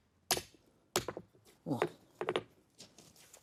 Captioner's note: he sighs